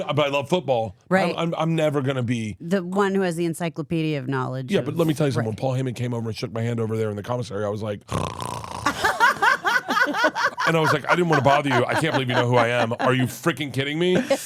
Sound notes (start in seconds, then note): 8.1 snorting; 8.9 Elyse and Steph laughing